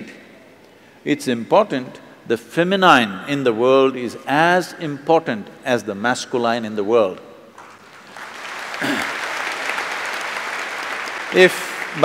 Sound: applauds

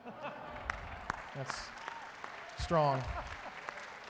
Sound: audience applauding

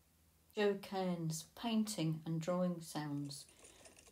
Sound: painting and drawing sounds

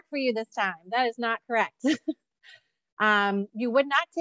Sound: chuckles

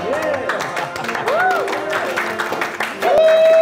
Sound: chuckling, cheering

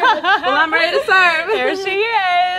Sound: chuckles

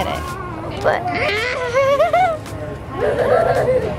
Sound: crying

